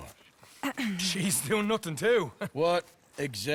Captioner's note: laughs